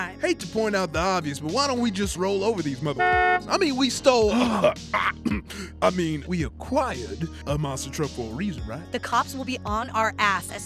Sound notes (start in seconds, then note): 2.9 car honks; 4.9 clears throat